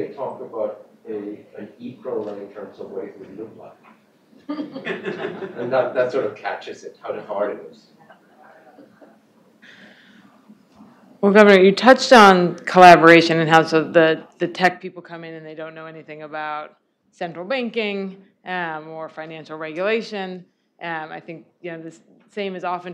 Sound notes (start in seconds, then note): 8.0 laughter